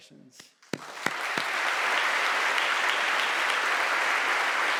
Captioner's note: audience applauding